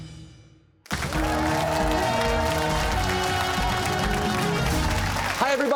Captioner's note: cheers and applause